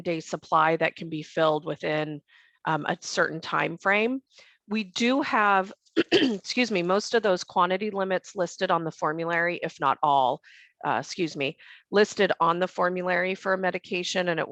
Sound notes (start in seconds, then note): 6.0 clears throat